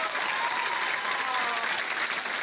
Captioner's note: applause